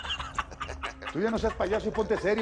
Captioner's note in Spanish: Risas